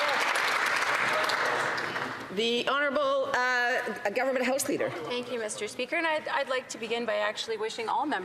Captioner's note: some Applause